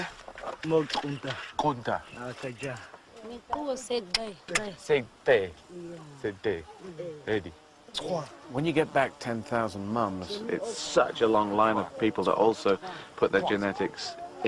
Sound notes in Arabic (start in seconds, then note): 2.7 متحدثا بلغة أجنبية